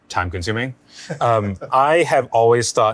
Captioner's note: laughing